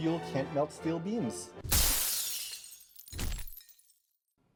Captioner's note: glass shatters